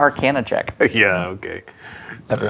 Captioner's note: laughing